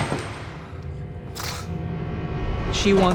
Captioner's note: scoffs